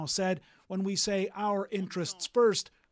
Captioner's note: speaking French